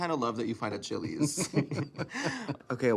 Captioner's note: both laughing